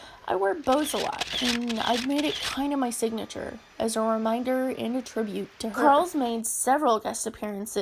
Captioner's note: camera clicks